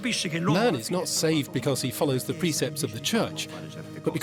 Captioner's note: in Italian